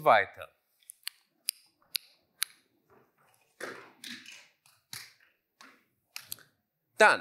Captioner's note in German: Klicken